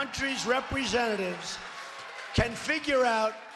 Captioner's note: cheers